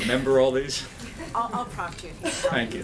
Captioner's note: laughter